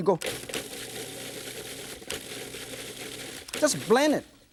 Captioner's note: processor blends